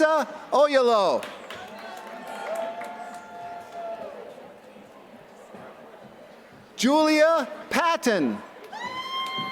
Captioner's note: applause; applause